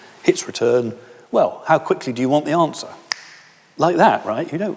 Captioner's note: snaps finger